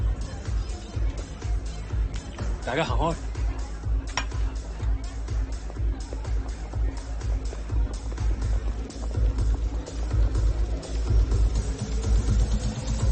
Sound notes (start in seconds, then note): 2.2 speaking foreign language; 4.5 dance music continues